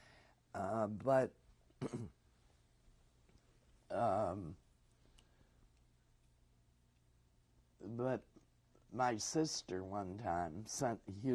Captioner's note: pauses for 6 seconds